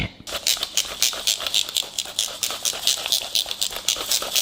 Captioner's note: gadget creaks